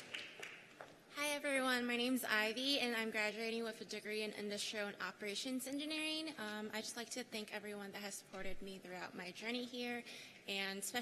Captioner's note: cheers and applause